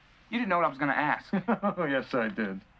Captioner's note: laughing